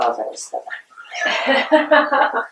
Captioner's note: laughter